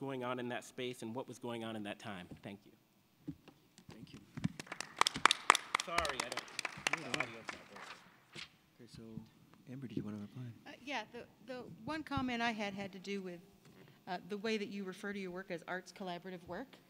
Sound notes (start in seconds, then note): 4.1 applause